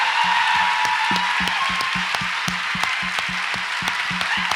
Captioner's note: audience applauds and cheers